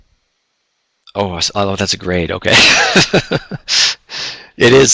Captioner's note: laughs